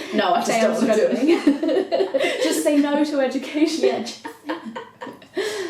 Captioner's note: they laugh